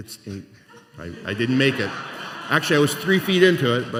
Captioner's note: laughter